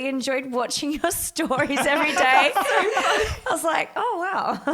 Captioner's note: all laugh